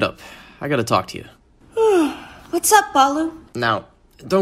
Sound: yawning

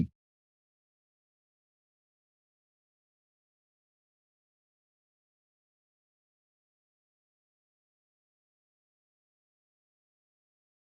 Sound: silence

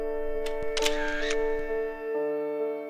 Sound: picture snap

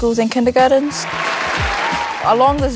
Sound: applause

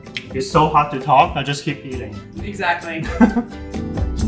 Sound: laughs; upbeat uplifting music

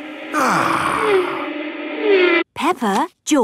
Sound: contented sigh

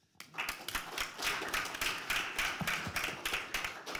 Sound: applause

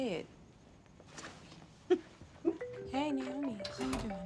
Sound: chuckles; cellphone ringing

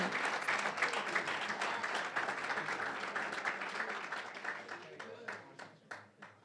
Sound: applause

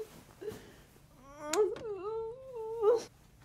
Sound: crying

